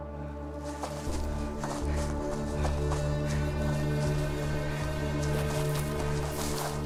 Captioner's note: tense music; Scarlet panting